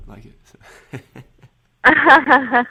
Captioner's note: laughing